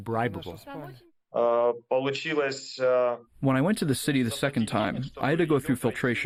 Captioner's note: through translator